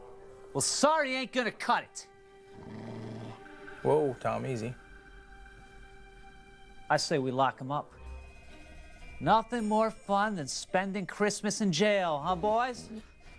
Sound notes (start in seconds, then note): 2.5 dog growls